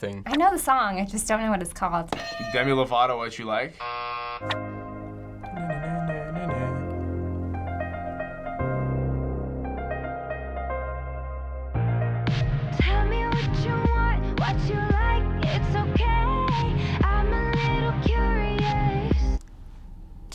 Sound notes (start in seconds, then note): 3.7 buzzer; 4.5 humming along; 7.4 piano and synthesizer playing